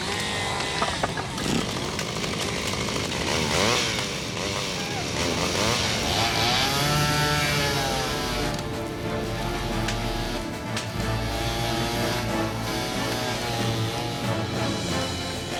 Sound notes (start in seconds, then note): 1.7 saw buzzing